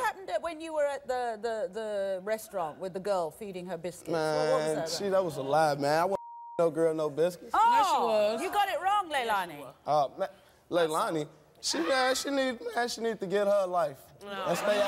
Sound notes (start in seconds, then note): 6.2 beeping